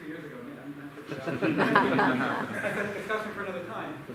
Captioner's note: laughter